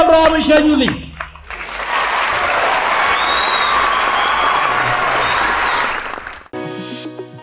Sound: applause

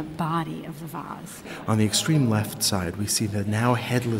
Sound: voiceover

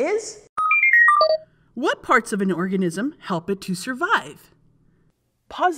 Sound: computer beeping

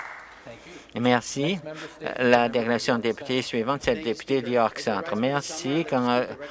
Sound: some Applause

